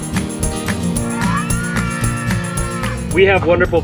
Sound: cheering

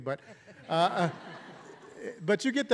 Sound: audience laughing

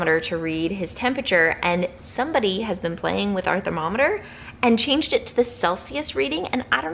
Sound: none

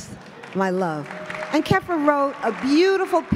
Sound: applause

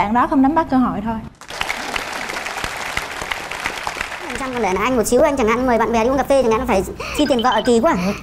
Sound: applause

